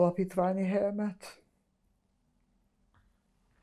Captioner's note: pauses 12 seconds